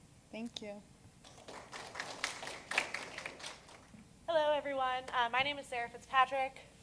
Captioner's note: applause